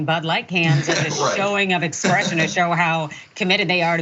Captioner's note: laugh